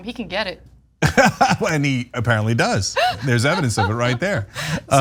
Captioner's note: laugh